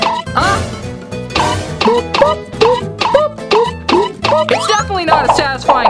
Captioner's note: dramatic music; comical popping noises